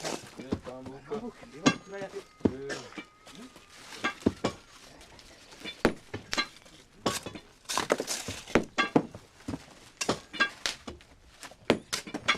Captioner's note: Coup de marteau